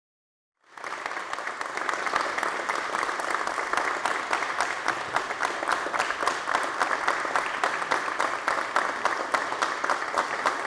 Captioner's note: applause